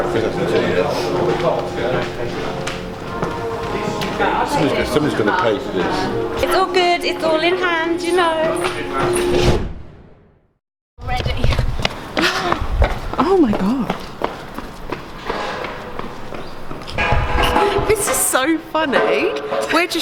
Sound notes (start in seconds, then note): 9.4 air whooshing; 12.4 footsteps echoing